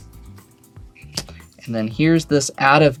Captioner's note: card slaps